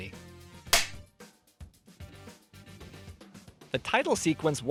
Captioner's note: film clapper sound, music continues